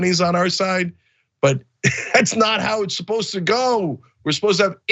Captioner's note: laugh